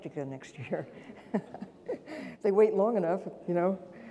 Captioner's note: laughing